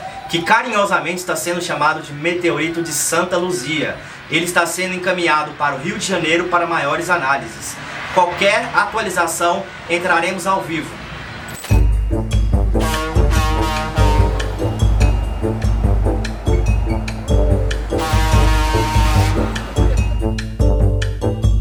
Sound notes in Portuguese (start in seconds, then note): 12.3 Música cômica ao fundo; 15.6 Sons de buzinas de caminhão e carros passando na BR-040